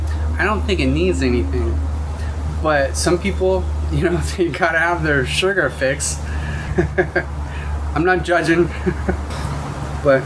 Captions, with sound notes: I don't think it needs anything. But some people, you know, got to have their sugar fix. [Laugh] I'm not judging, but